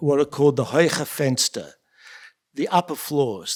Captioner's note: yiddish